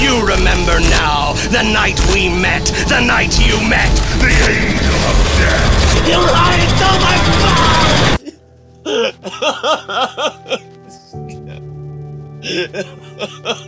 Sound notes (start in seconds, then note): 8.8 crying; 10.1 slow sorrowful music